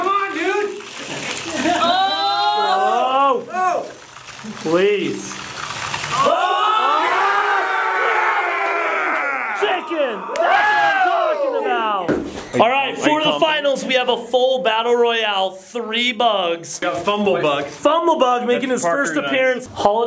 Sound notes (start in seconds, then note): 2.0 yelling; 6.1 yelling in victory